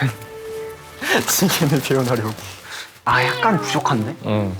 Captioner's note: flapping